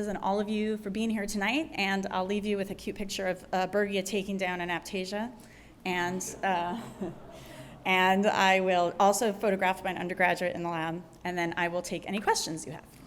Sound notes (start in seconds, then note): 6.2 laughter